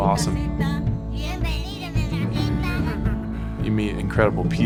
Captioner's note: children speak in Spanish